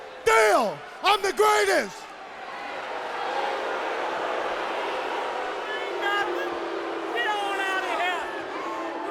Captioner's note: crowd cheering